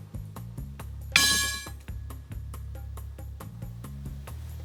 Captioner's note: bowl rattling again